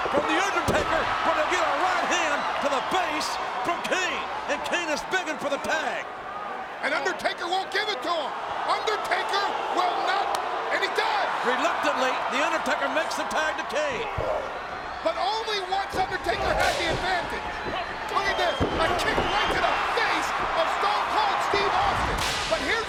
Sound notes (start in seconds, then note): 9.9 audience jeers; 11.6 audience cheers